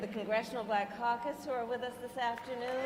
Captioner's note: applause